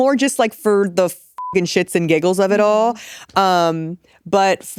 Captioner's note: beep